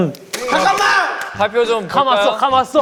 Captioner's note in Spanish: ¡Clap!